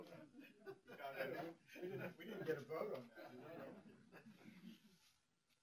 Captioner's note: talking and laughter among panel; pause